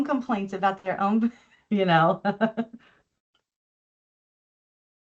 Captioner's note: chuckles